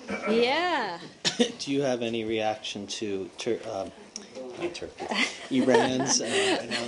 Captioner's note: laughter